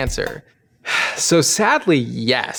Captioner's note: sighing